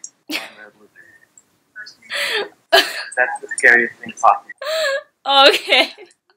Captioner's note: laughing in disbelief